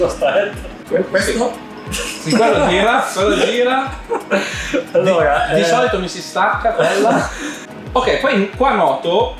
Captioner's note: laughing